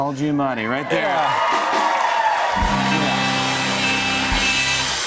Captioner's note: cheers and applause